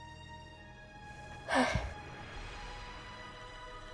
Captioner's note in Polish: Wystraszone westchnięcie